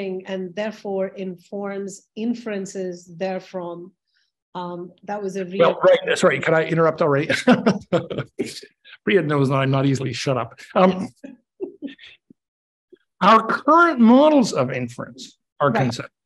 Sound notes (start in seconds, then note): 7.2 chuckles; 11.6 chuckles softly